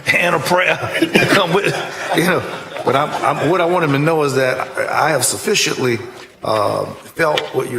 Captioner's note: laughter